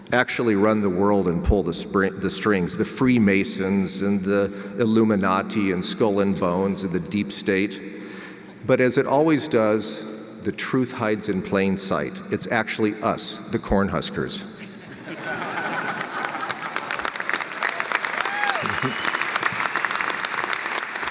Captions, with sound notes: actually run the world and pull the strings, the Freemasons, and the Illuminati, and Skull and Bones, and the Deep State, but as it always does, the truth hides in plain sight. It's actually us, the Cornhuskers. (audience laughs and applauds)